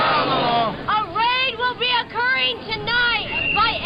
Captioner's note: voiceover